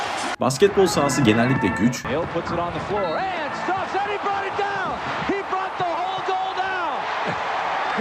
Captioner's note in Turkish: coşkulu tezahürat